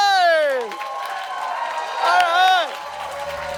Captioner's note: audience cheers and applauds